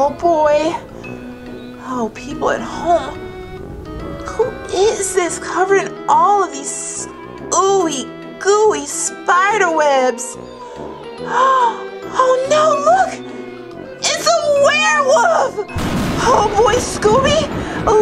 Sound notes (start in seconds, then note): 10.4 gasps